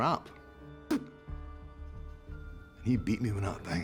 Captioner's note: spits